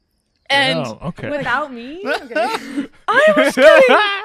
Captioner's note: laughter